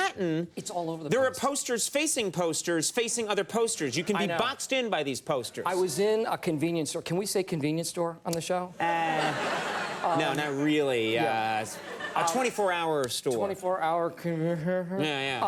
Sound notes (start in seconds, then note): 8.9 audience laughs